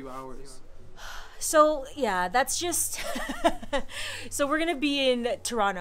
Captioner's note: laughs